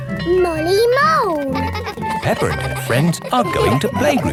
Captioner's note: giggling